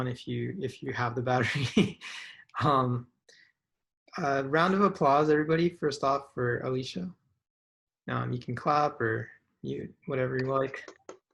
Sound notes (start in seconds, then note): 1.4 chuckles